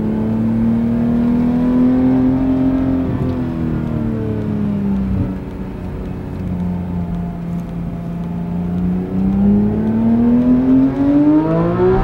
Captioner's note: engine revving noise